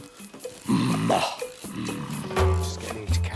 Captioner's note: grunting